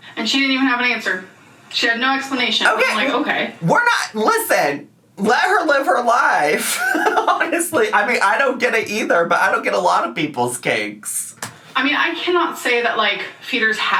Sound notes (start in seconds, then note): 6.5 laughs